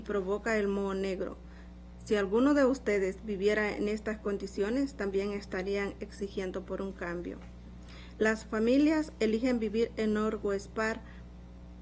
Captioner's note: speaking spanish